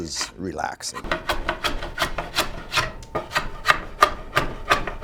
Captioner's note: scraping loudly